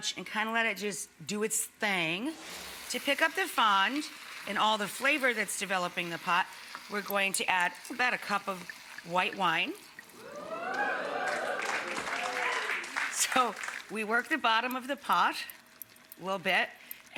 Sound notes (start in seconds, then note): 10.2 audience cheers